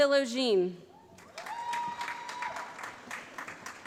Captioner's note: applause